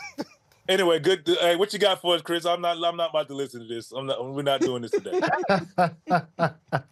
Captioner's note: laughter